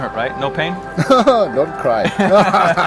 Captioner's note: laughing